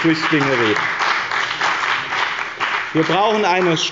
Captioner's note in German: Beifall bei dem BÜNDNIS 90/DIE GRÜNEN und der CDU